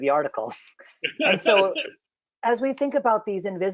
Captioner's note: both laugh